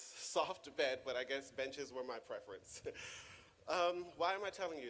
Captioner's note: chuckles